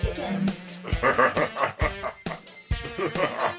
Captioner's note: Monty laughs